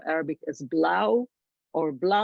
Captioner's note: speaks foreign language